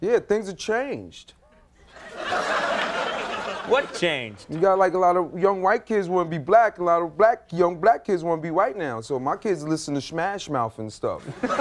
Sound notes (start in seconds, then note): 1.8 audience laughing